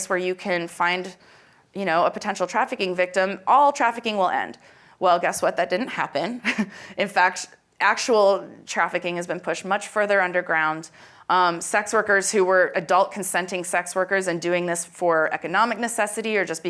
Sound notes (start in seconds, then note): 6.3 chuckles